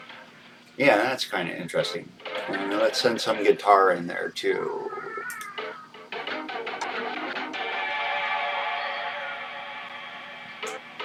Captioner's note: neighbor child is delighted by RhythmEcho in background